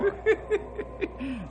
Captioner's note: laughs